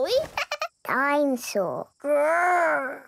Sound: chuckles

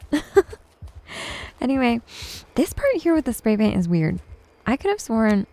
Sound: giggles

